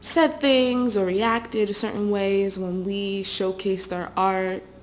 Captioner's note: none